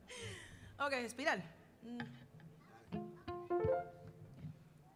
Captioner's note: Spanish